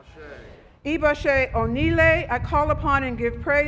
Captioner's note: speaking Foreign Language